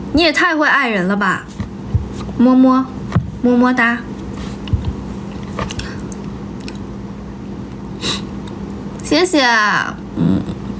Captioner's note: pat pat pat